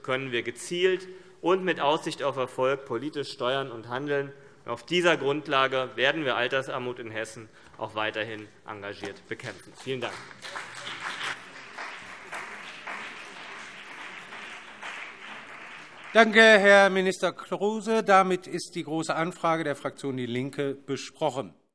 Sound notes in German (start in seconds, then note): 11.4 Beifall CDU und BÜNDNIS 90/DIE GRÜNEN